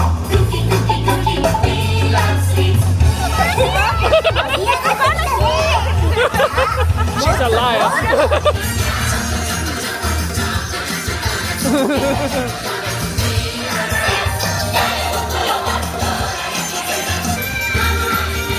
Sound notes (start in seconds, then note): 0.2 upbeat music continues; 3.2 laughing; 10.5 laughing; 15.0 upbeat music continues